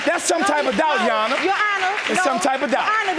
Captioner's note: audience applauding